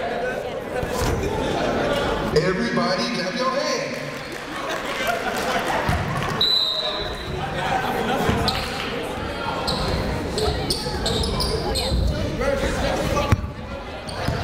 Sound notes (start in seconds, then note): 4.1 clapping; 6.4 whistle